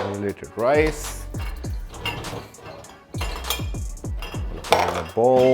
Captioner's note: clinking sound